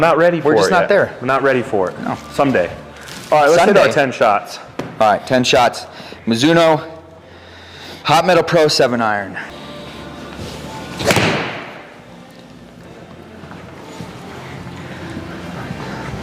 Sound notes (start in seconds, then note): 11.0 club thuds; 12.3 indistinct background music